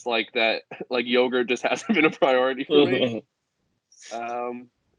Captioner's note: laughs